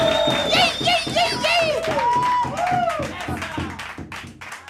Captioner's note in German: Applaus